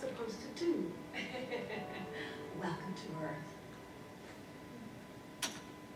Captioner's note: laughs